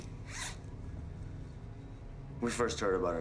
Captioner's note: zipper rasps